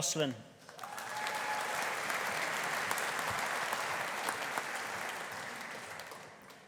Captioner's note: audience applauding; audience cheering